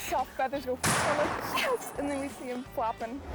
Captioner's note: gun shoots